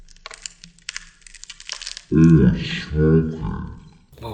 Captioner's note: crunching